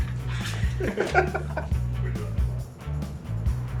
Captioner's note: men laughing